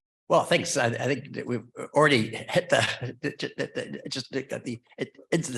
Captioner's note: chuckles